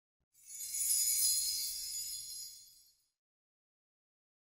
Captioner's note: chimes ringing